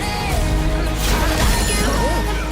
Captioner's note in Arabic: شفرات خشخشة